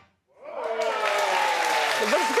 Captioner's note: audience cheering